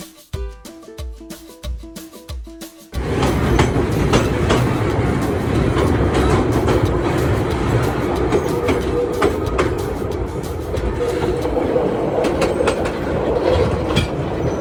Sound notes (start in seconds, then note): 3.6 train noise leaving tunnel